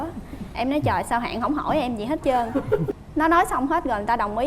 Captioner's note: MCs laughing